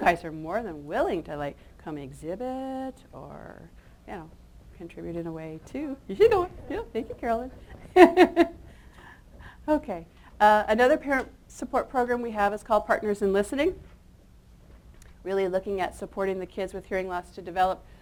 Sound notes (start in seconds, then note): 7.8 chuckles